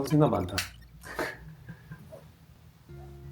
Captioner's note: laughs